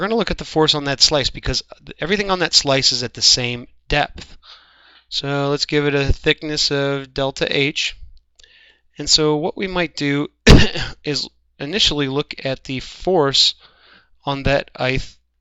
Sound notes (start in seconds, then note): 10.4 cough